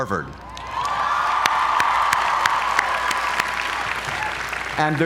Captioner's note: applause